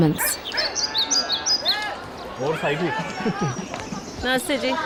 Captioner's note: birds chirping